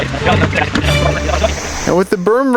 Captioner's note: upbeat music; sped up talking